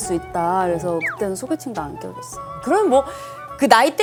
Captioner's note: tearing up